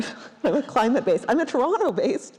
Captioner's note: laughing